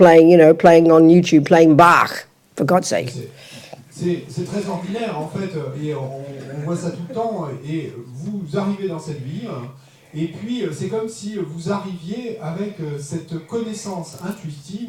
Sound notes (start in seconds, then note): 3.3 French